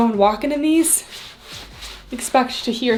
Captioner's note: fabric rubbing